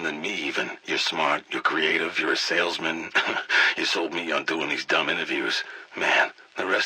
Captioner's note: laugh